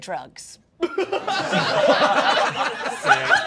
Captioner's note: all laughing